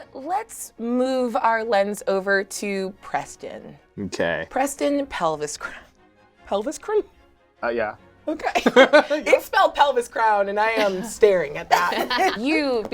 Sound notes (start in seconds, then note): 8.5 laughs; 10.6 laughs